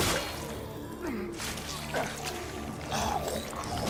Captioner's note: grunting